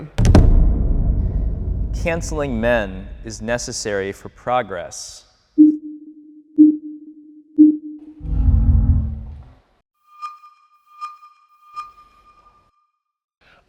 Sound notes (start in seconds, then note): 0.0 audio thumps; 5.4 countdown chiming; 7.6 audio beeping